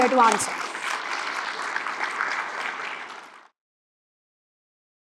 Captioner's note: audience applauds